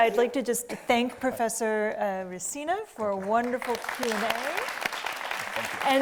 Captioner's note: audience clapping